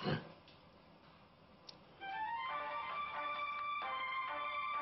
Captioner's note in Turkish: Telefon çalar